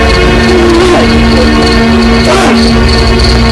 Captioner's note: grunting